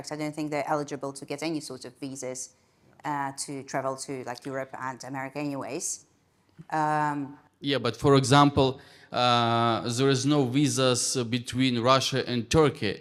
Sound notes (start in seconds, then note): none